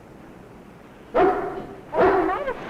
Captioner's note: dog barking